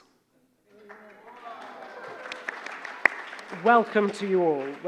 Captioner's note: audience applauding